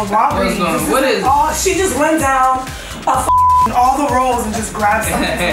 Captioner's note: beep